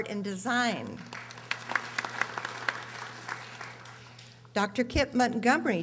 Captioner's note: audience applauding